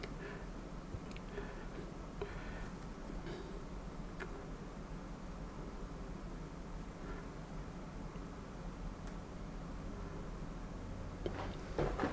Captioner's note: sniffing